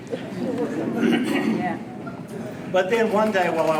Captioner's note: clears throat